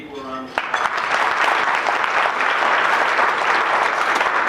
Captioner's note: applause